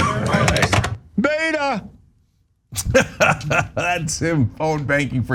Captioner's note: laugh